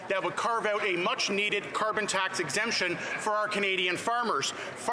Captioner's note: none